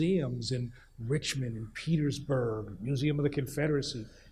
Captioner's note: none